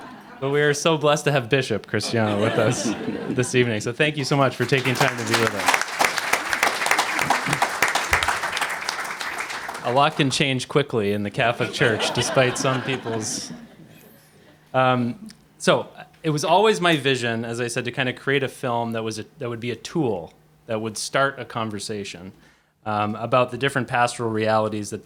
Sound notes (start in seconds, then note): 0.0 laughter; 6.2 applause